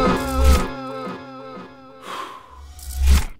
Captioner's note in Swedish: Han pustar ut